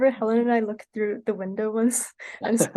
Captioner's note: laughter